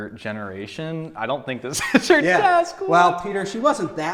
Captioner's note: laughs